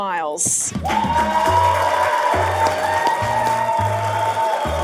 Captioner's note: audience cheering